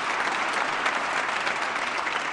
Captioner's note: applause